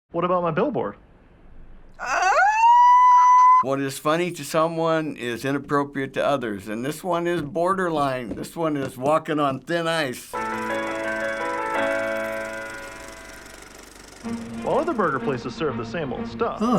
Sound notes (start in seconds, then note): 2.0 squeals; 10.2 ragtime intro